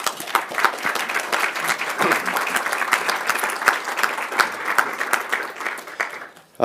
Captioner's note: applause